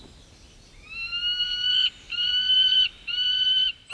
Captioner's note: falcon cries